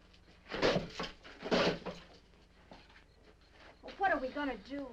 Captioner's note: insects chirping